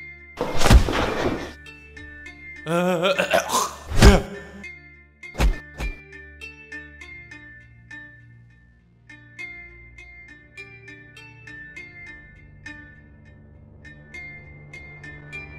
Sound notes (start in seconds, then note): 0.2 hitting sound; 3.9 hitting sound